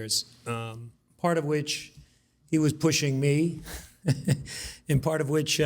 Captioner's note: laughs